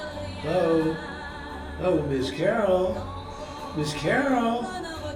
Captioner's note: voiceover